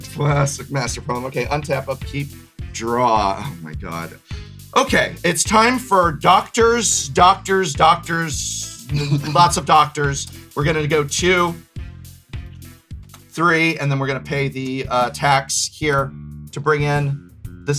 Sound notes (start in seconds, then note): 8.8 chuckles; 12.4 counting